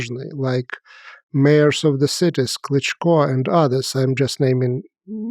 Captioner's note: speaks foreign language